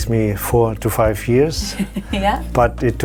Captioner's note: laughs